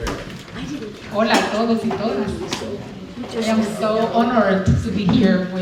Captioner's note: speaking spanish